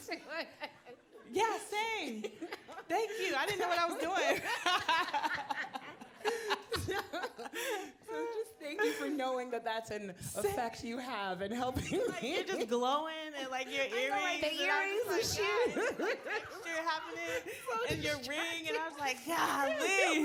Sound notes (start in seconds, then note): 2.0 audience laughing; 4.8 laughing; 5.1 panelists laughing